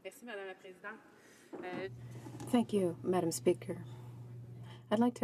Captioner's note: speaking French